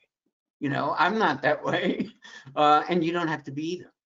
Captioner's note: chuckles